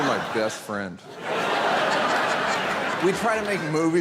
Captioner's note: audience laughing continues